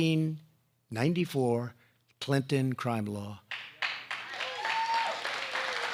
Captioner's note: applause